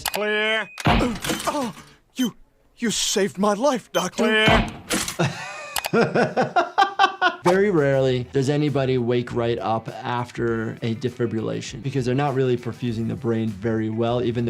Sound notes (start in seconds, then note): 5.1 laughing